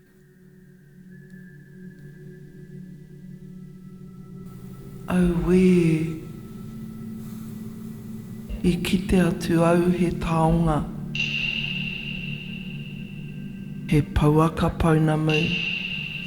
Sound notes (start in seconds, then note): 4.1 narrator speaking Maori; 13.3 dramatic music